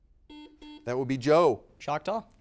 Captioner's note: buzzer beeping